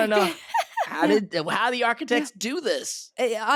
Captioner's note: they laugh